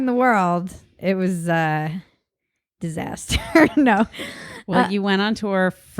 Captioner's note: laughs